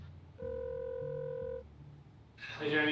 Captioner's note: phone ringing